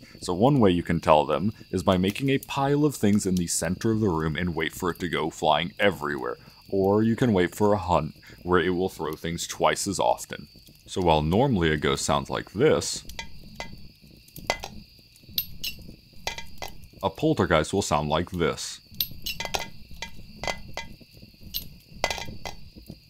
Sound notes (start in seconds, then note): 13.4 sound of things being thrown; 19.0 sound of twice as many things being thrown